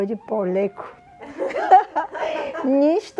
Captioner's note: laughter